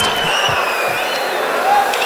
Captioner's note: wild applause and cheering for 22 seconds